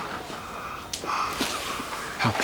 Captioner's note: robbie breathes heavily